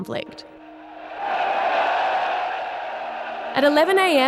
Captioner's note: cheering